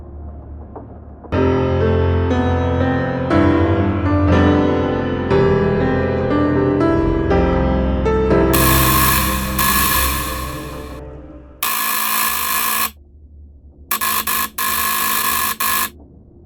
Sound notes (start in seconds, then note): 1.3 playing the piano; 8.9 doorbell sound, buzzer